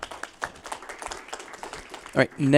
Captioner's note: applause